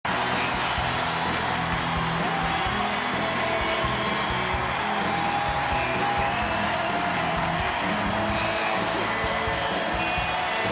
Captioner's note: applause and music